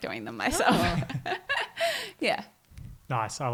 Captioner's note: giggling